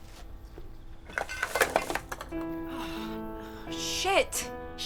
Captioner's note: cans clanking